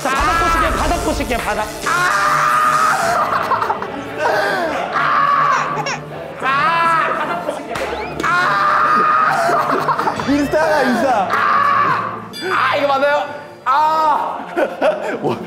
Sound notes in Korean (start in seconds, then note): 7.7 깔깔깔